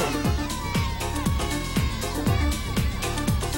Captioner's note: coughing